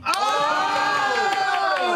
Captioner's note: cheering